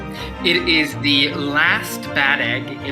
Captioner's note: none